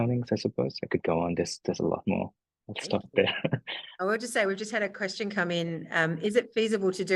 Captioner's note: laughs